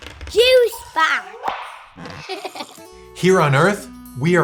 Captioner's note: kid laughs